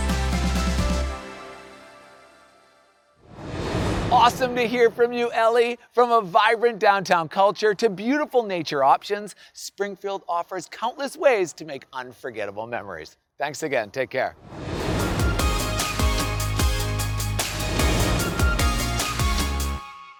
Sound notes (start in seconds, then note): 0.0 upbeat music; 3.2 air whooshing; 14.7 upbeat music